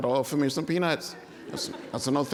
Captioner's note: laughter